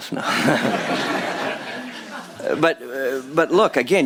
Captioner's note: laughter